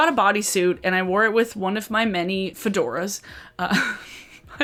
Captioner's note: laughs